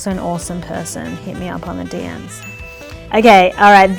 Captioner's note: bell chimes